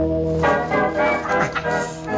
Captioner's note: maniacal laughter